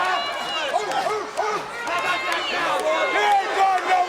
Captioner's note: audience barks